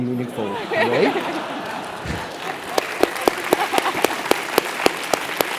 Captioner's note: laugh; applause